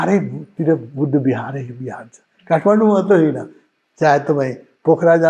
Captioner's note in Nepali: घाँटी सफा गरेको आवाज